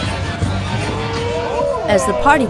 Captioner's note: all cheering